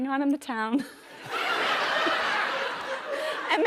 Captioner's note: laughter